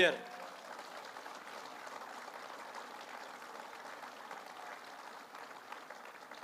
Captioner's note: applause